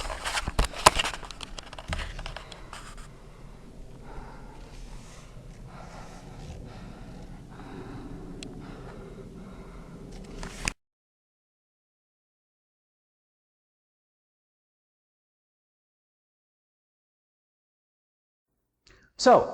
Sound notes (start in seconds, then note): 0.0 camcorder rustles; 8.2 worried breathing